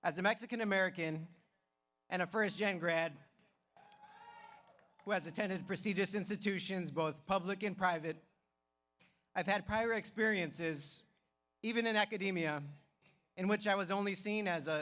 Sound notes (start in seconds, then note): 3.8 audience cheers